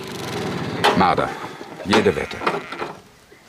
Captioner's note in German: Motorroller knattert